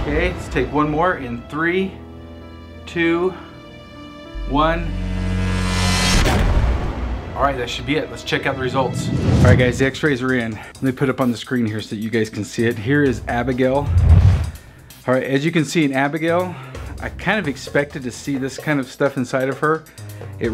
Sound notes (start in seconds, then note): 5.3 buzzes; 6.2 bangs